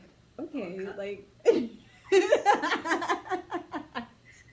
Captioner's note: laughs